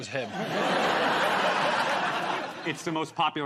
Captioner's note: laughter